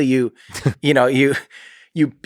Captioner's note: Lex laughs